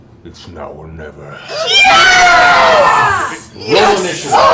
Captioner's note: cheering